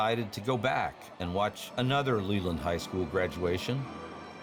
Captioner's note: people talking in background